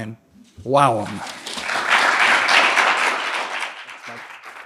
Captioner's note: audience applauds